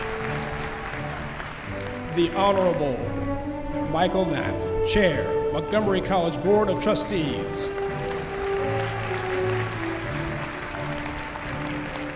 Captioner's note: cheering; applause